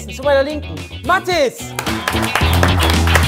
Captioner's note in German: Applaus, Jubel; Dynamische Musik